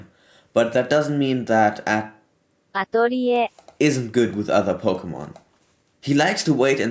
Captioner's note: google voice